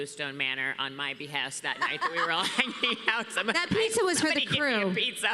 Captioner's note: laughs